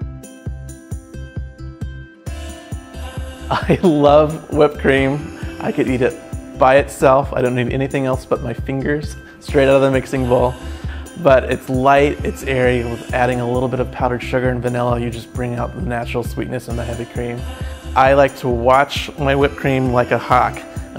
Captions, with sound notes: (gentle acoustic music) I love (chuckles) whipped cream. I could eat it by itself, I don't need anything else but my fingers straight out of the mixing bowl. But it's light, it's airy and with adding a little bit of powdered sugar and vanilla you just bring out the natural sweetness in the heavy cream. I like to watch my whipped cream like a hawk.